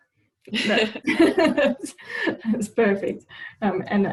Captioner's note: laughing